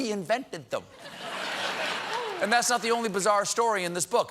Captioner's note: laughter